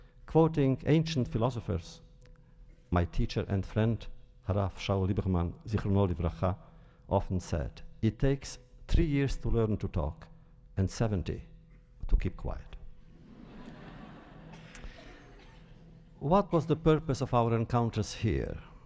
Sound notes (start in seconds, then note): 13.1 laughter